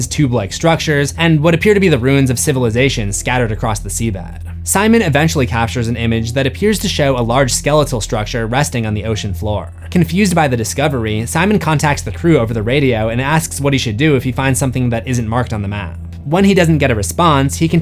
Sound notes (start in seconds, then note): none